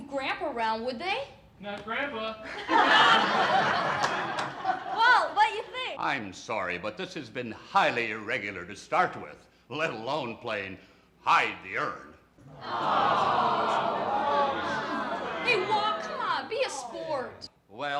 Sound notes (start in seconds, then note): 2.4 all laughing; 12.5 all groaning